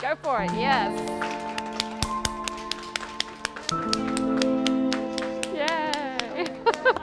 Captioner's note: crowd claps